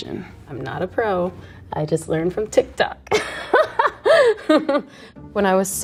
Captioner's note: laughs